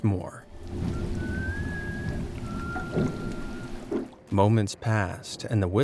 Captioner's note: eerie whistling